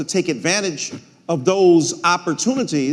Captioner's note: none